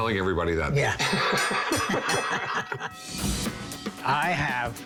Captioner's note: both laugh